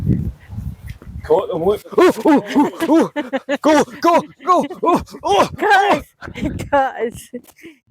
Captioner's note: laughter